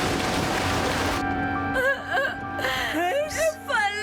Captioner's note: crying